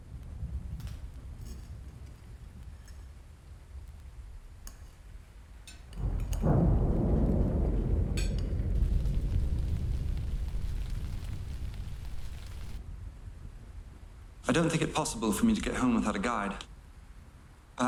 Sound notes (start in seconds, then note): 5.9 thunder pounding